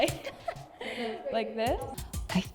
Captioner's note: chuckles